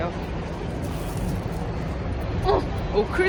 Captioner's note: Crunch